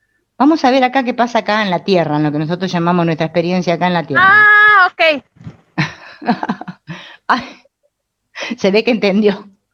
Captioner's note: laughs